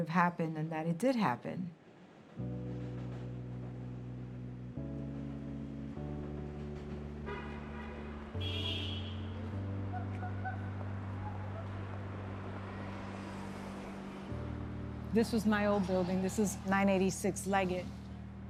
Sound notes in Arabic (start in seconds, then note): 2.1 موسيقى حزينة; 7.2 أصوات أبواق السيارات